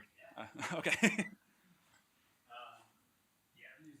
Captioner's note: laughing